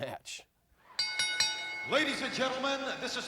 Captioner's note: ring bell dinging